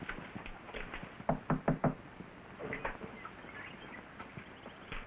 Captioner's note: soft knocking on door